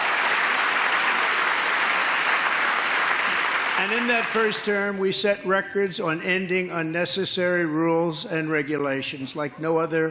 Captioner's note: applause